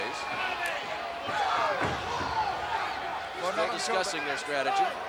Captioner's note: footsteps plodding